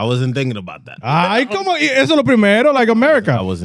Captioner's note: speaking In Foreign Language